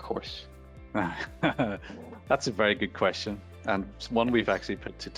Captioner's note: laughing